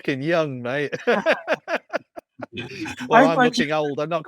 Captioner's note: laughs